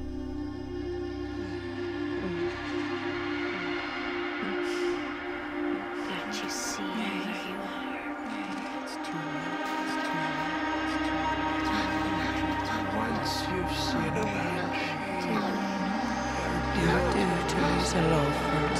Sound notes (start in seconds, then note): 0.2 dark eerie music; 9.2 ghostly Voice 2